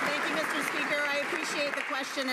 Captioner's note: some Applause